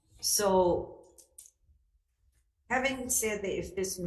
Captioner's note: none